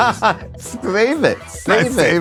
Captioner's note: laughs